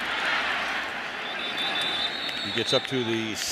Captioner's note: whistle blows